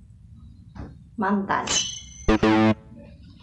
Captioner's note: sword clash